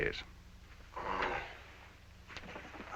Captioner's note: grumbling